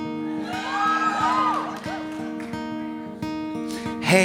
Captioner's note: audience cheering